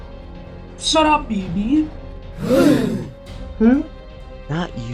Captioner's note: gasp!